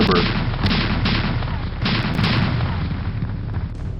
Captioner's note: canon fire